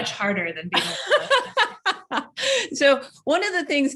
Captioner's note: laughs